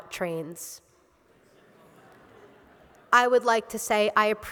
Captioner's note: laughter